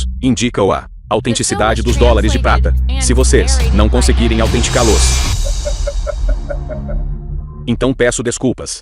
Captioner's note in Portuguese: risadas